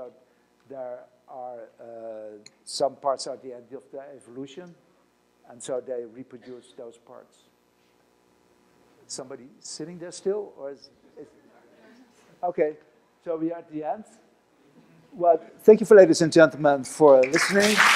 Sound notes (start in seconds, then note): 11.7 audience muttering